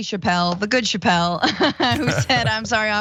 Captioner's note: laugh